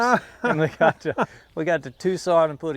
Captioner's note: laugh